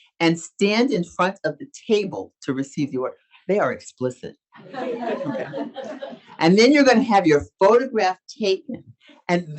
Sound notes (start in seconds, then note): 4.6 audience laughs